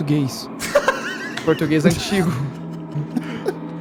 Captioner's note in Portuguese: Risadas